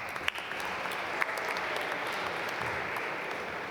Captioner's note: applause